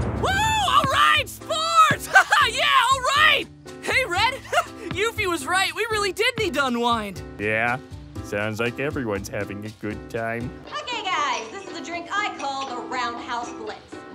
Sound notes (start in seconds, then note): 4.4 chuckle